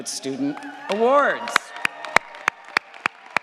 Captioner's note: all applaud